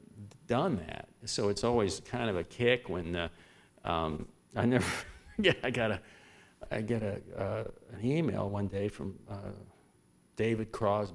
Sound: laughter

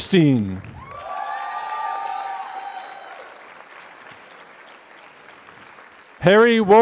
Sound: applause

